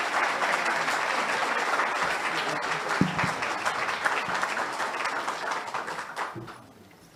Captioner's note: audience applauds